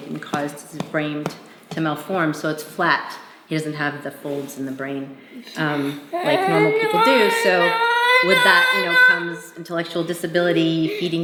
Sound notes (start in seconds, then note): 2.3 thumping; 5.4 murmuring